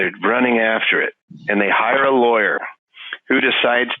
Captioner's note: laughing